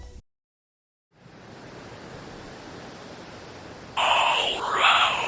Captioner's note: sound of wind blowing